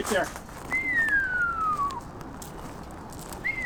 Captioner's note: whistling